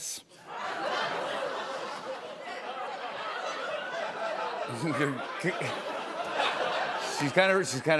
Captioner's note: laughter